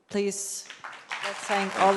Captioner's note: applause